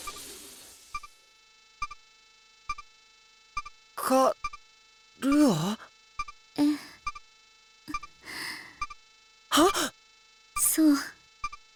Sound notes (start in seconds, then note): 2.9 silence; 8.2 gasp